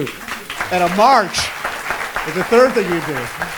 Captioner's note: applause